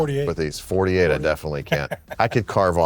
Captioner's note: laughing